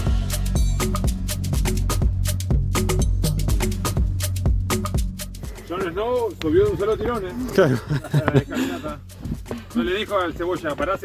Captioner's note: laughs